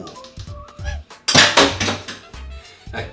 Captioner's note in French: raffut